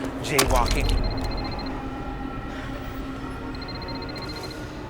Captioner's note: phone ringing